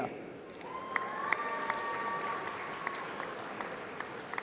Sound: applause

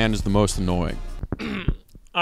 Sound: clears throat

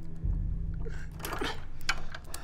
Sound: clicks

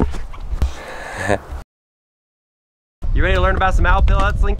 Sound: laughs

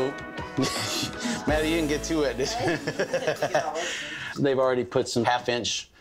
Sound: laughing

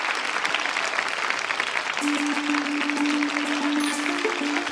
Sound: applause

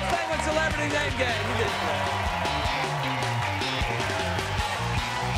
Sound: cheers and applause; lively music

